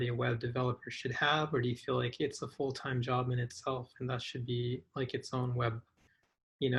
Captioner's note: none